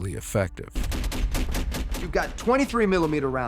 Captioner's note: thumping gunfire